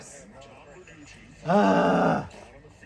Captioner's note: groaning